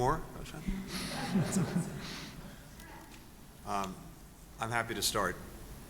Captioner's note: laughter